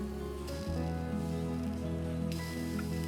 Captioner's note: grill sizzling